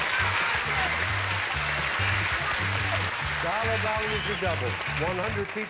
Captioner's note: audience applauding